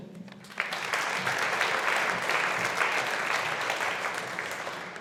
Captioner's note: audience applauding